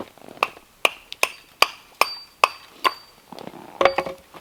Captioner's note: loud chopping